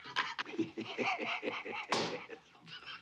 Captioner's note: LAUGHlNG